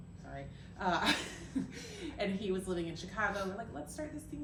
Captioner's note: laughter